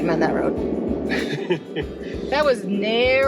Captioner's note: laughing